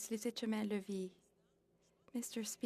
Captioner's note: speaking French